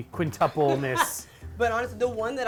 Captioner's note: laughs